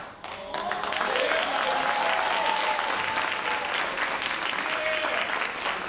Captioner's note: all applauding and cheering